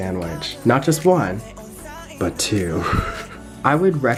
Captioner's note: chuckles